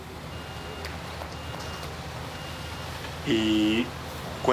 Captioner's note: truck beeping